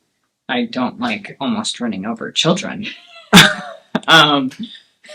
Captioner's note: laughs